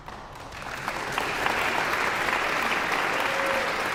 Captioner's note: audience applauds